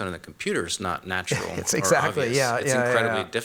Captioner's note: laughs